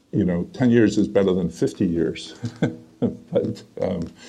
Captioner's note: laughs